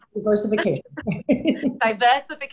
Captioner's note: laughing